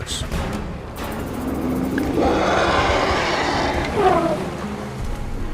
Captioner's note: trumpeting